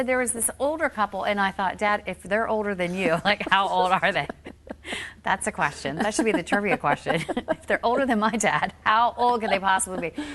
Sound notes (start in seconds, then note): 5.9 laughing